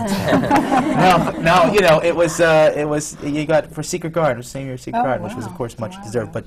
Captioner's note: laughter